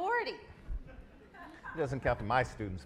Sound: audience laughs

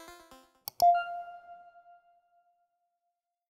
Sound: mouse clicking; electronic note rings out

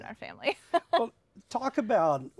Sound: laughs

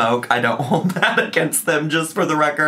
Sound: laughing

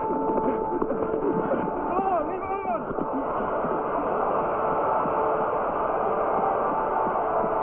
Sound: players shouting

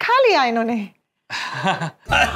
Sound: laughs

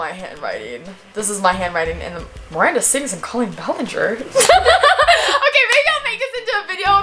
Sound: laughs

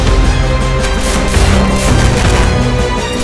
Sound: guns firing

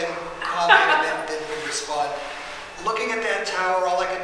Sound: audience member laughing

